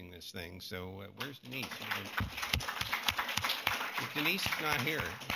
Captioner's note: applause